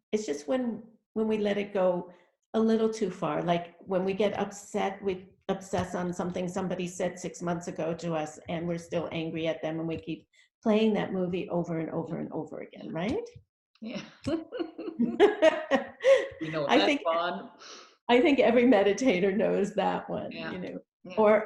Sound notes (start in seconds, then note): 14.6 both laughing